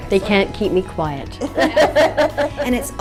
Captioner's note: laughter